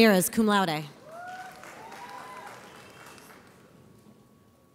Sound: audience applauds

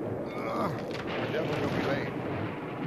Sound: driver grunts

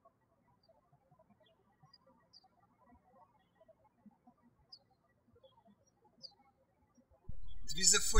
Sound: birds chirping

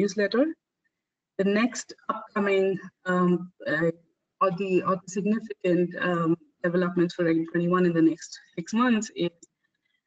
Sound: audio static

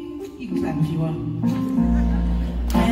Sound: audience laughs

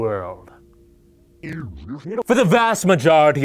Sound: bad VHS sound

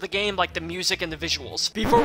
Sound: record scratch

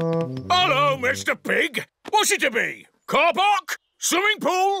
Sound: none

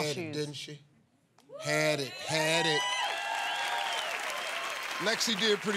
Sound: cheers and applause

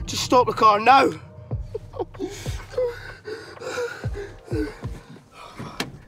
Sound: panting

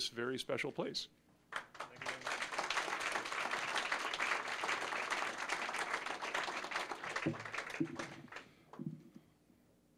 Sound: applause

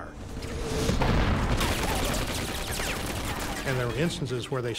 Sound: rapid gunfire whirring

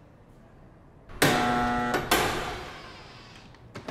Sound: buzzer

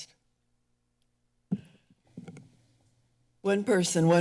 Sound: pause

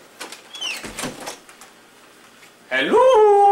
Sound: door creaking closed

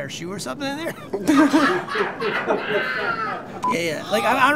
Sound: laughter

